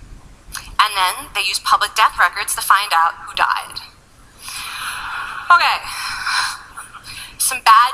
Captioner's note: laughing